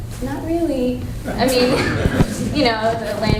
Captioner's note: laughter